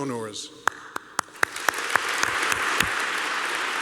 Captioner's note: applause